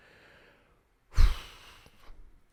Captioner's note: sighs